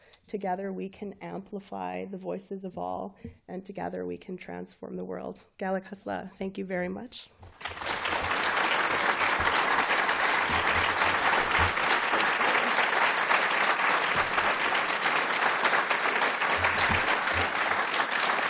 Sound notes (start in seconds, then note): 7.5 applause